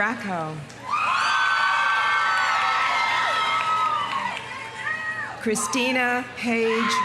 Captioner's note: audience cheering; audience applauding